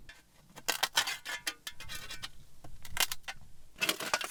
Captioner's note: shovel clanging